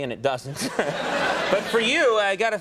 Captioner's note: audience laughing